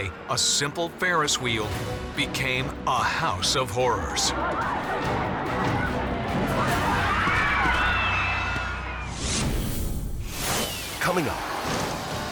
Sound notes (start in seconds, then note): 6.5 screams; 9.3 logo squishes